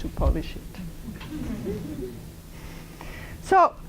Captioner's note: laughter